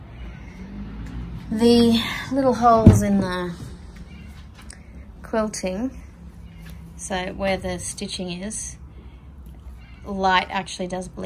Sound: door handle clunks

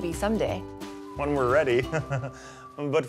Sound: chuckles

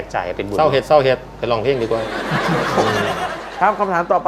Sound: talking with Northeast accent

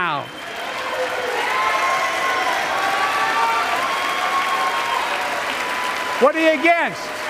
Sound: applause

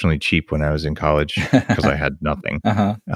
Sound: laughs

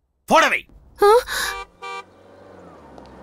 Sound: horn blares

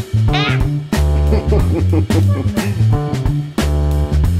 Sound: laughing

